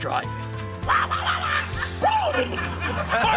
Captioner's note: warbles; whinnies